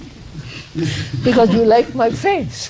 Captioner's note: laughs